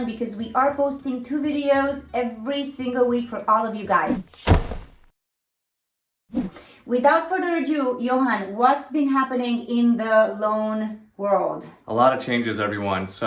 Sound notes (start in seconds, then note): 4.0 object thuds; 4.1 air whooshing